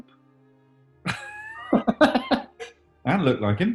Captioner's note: laughing